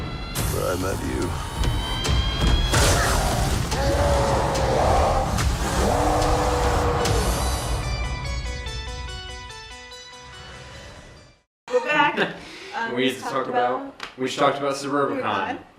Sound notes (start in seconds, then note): 2.8 screaming